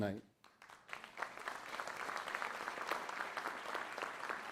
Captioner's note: applause